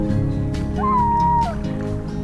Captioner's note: loon Call